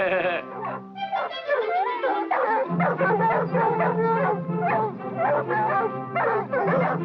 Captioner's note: playful music; dogs barking; laughs